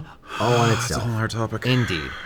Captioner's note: sigh